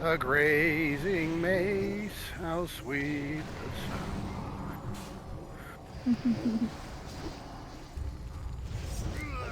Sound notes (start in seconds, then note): 6.0 giggles